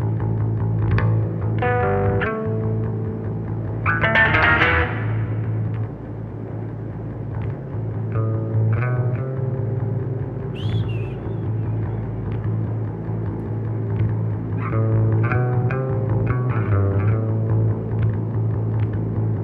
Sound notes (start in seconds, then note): 12.2 engine rumbling